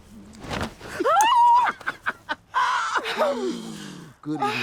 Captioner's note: humming; laughing; shrieking in surprise